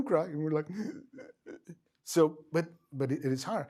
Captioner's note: sobs